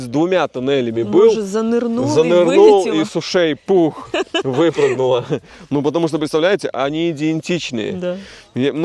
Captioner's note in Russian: смех